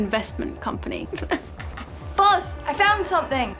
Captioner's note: sobs